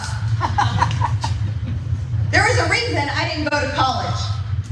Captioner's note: laugh